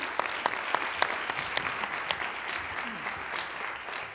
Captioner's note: applause